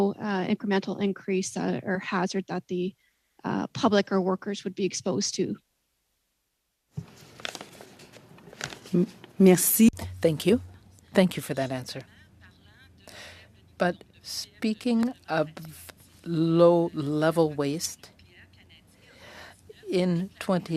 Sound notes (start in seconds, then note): 16.4 speaking French